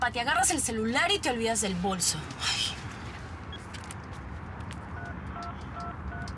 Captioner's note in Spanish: Bip